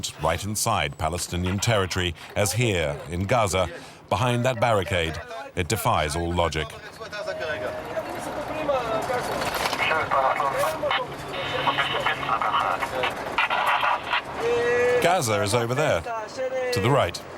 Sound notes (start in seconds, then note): 6.7 French spoken audio